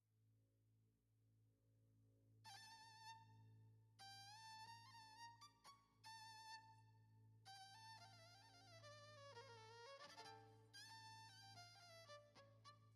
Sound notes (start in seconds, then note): none